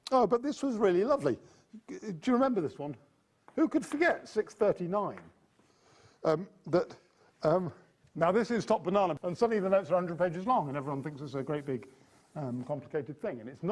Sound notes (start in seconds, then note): none